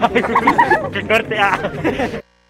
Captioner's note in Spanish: risas